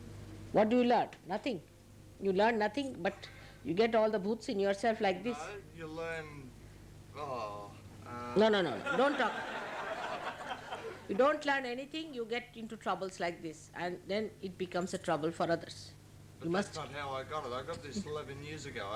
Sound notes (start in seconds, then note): 8.8 laughter